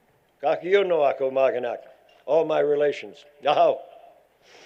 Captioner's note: foreign language